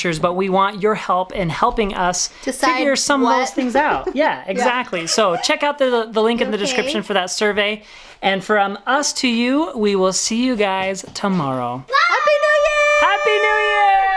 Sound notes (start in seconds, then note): 3.8 laughing; 5.9 crying